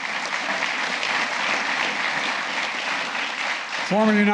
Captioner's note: applause